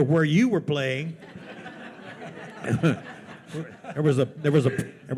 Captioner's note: attendees laughing